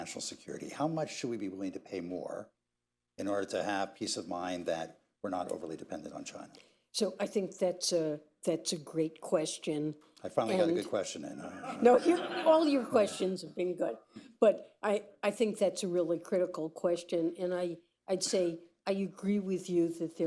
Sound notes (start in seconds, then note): 11.5 laughter; 14.1 laughs